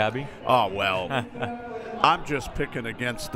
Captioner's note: laughing